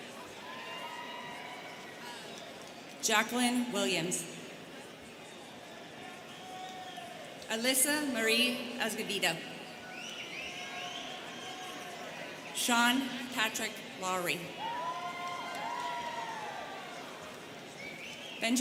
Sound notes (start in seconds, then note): 0.2 students cheering; 9.9 student whistling; 14.5 students cheering